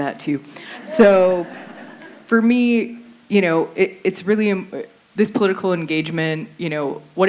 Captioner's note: laughter